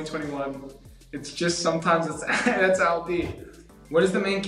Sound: chuckles

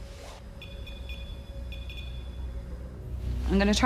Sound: beeping

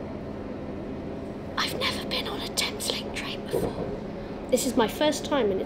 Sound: whispering

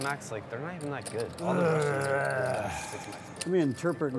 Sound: groans

